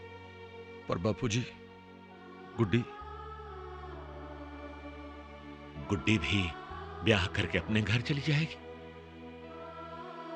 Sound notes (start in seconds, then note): none